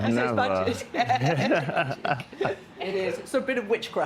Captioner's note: all laughing